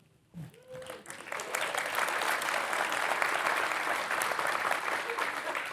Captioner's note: participants applauding